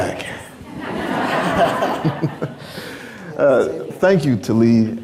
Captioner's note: crowd laughing